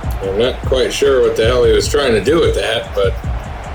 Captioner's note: crowd Noises